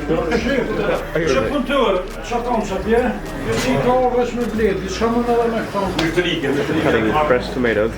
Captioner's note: foreign language